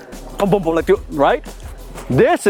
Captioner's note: foreign language